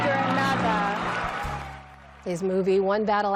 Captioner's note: cheering